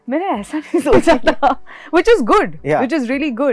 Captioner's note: laughs